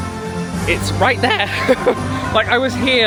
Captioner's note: laughs